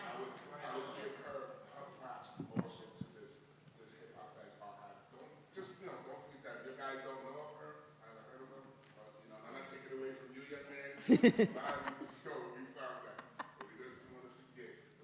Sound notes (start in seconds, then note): 11.0 audience member laughs